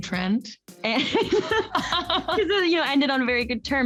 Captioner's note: Camila laughs